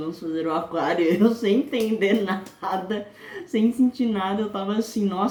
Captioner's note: laughing